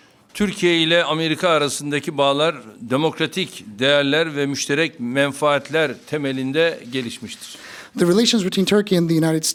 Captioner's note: speaking Turkish